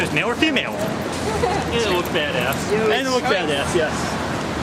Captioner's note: laughs